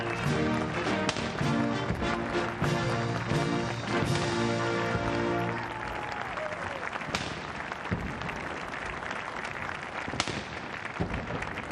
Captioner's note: cannons firing